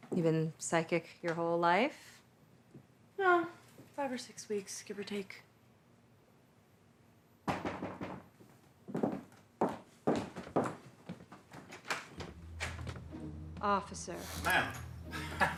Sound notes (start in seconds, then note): 7.6 fist pounding; 10.0 boots tapping; 12.2 upbeat music; 15.0 laughs